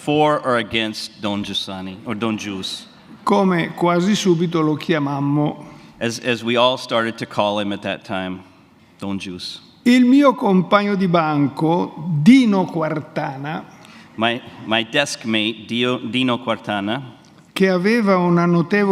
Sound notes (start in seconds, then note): 4.1 speaks in Italian; 11.0 speaks in Italian; 16.5 speaks in Italian